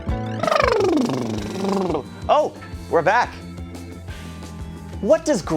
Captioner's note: lips buzzing